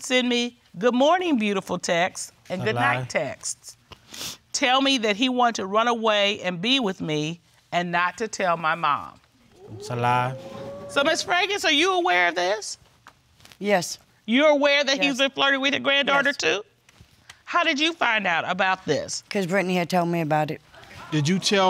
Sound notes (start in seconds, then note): 4.1 sobbing